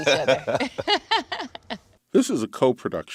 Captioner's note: laughs